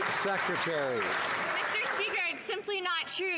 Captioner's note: some Applause